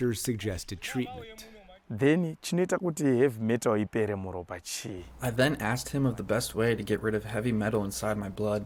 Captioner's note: through translator